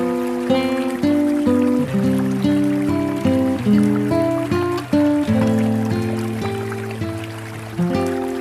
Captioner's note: sound of water